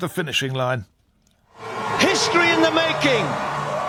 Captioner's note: crowd cheering